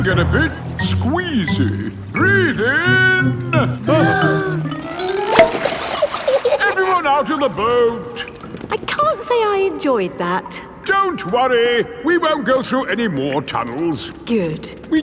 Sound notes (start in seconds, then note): 3.9 breathing in